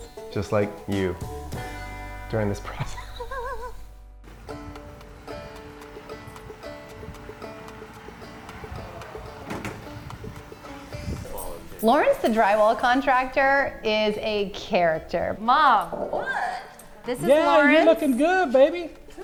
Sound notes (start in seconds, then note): 2.6 laughs; 4.1 soft Music